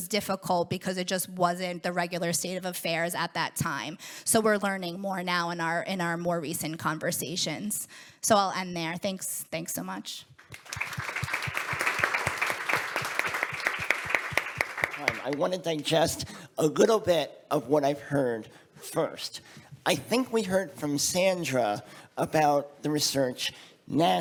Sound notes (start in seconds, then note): 13.0 audience applauds